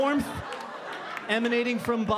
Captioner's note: audience laughing